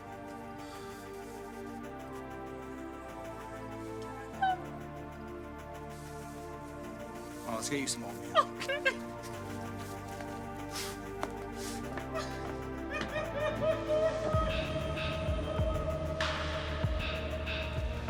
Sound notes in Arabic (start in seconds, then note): 10.8 بكاء; 14.9 موسيقى إيقاعية متوترة